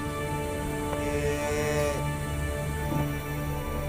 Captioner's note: cow mooing